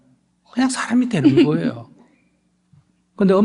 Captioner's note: questioner Laughter